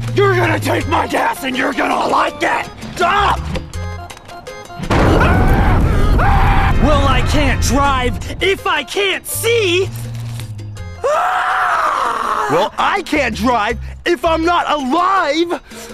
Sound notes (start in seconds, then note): 5.0 screams; 11.0 shrieks